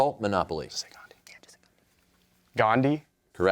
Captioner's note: whispers